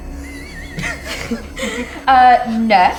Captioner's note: giggling